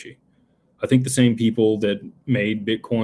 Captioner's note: none